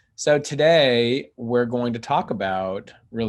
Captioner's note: none